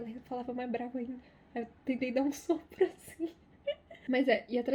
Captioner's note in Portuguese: risos